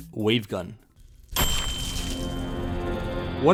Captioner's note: zombie exploding